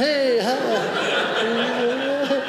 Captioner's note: audience laughing